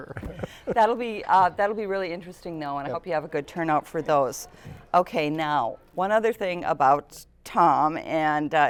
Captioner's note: laughter